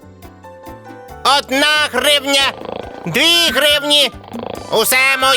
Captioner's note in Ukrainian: галас папуги